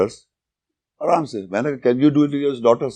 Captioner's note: speaking in Urdu